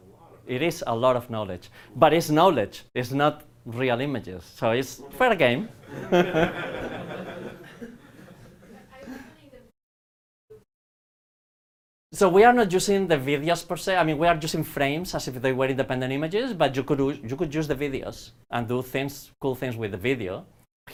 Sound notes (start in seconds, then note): 5.8 laughter